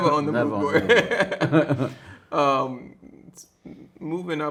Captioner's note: both laughing